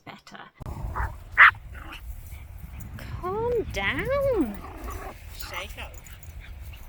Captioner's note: Twig is barking like a nutter